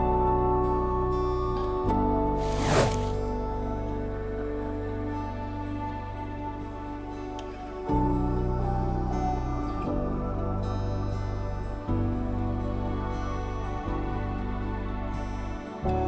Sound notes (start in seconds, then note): 2.4 image swooshes; 4.0 gentle music